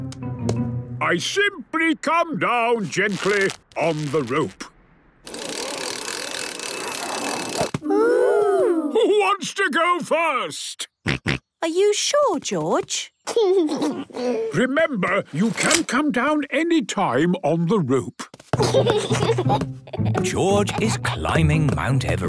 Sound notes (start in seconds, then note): 10.1 George snorts; 13.5 giggles; 18.6 giggles